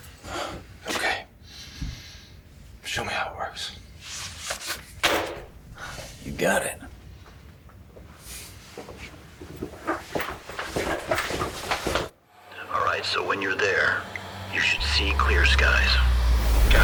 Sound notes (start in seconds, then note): 5.0 folder slaps; 12.2 suspenseful music